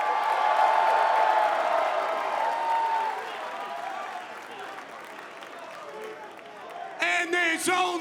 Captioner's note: cheers & applause